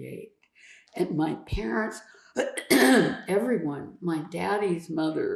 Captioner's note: clears throat